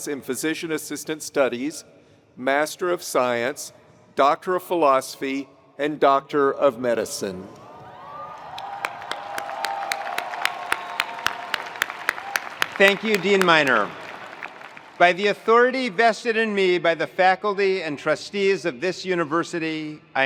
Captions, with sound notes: and Physician Assistant Studies, Master of Science, Doctor of Philosophy, and Doctor of Medicine. (attendees cheering) (attendees applauding) - Thank you, Dean Minor. By the authority vested in me by the faculty and trustees of this university,